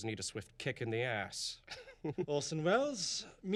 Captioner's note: chuckles